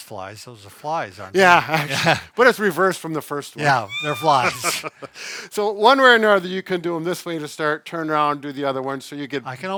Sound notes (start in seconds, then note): 3.7 chuckles